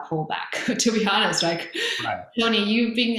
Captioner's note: laughs